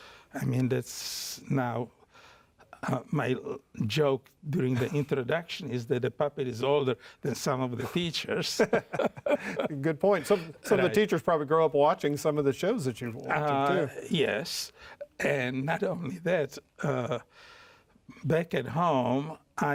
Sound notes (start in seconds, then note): 8.3 both laugh